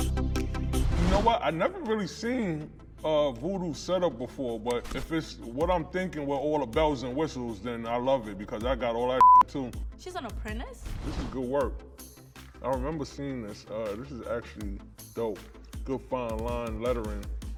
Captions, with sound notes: You know what, I never really seen Vudu setup before but if it's what I'm thinking with all the bells and whistles then I love it because I got all that (beep) too. - She's an apprentice? - This is good work. I remember seeing this. This is actually dope. Good, fine line lettering.